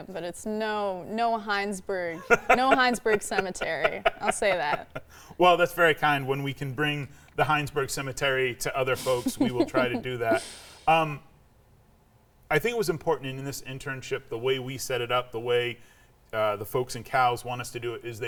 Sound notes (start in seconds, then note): 2.1 laughing; 9.0 laughing